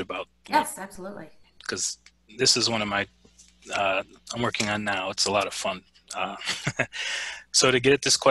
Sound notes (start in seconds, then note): 6.2 laughs